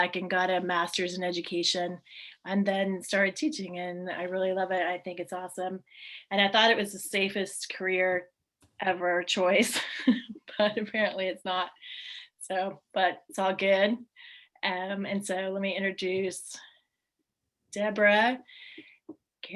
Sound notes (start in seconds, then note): 9.8 laughs